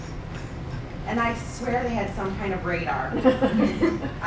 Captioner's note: laughing